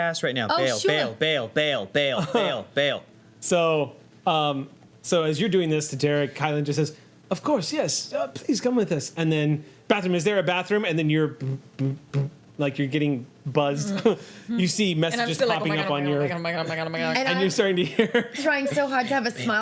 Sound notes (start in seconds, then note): 11.4 vibrating; 17.8 laughs